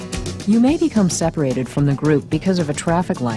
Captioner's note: upbeat rock music; voiceover